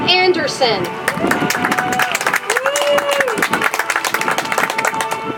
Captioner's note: audience applauds